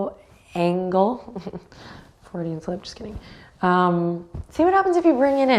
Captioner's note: chuckles